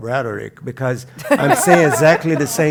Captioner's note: laugh